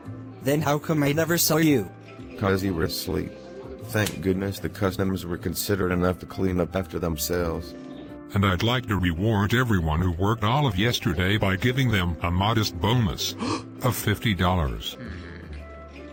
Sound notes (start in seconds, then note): 13.4 gasp; 14.7 grumbling